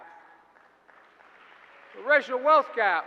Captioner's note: applause